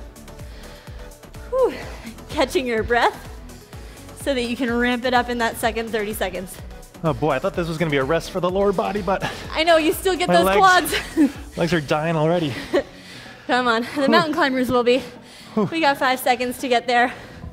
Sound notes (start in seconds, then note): 0.0 upbeat music; 0.2 breathes heavily